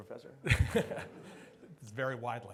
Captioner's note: laughs